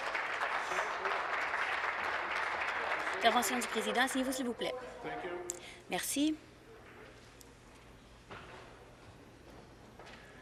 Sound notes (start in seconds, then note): 1.6 applause